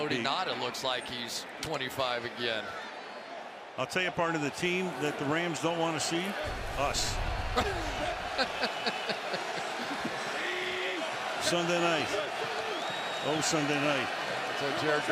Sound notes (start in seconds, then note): 7.3 laughs